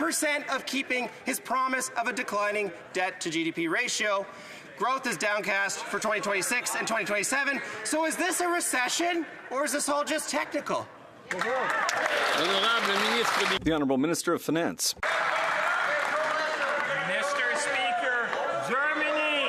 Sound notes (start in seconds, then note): 16.9 some Applause; 18.1 speaking French